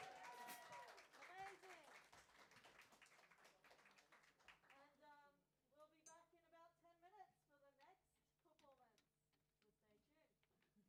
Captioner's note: applause